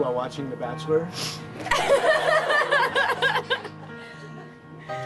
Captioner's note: all laughing